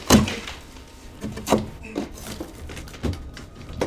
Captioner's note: drywall cracking